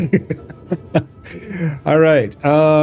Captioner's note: laughter